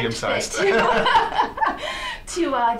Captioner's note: laughs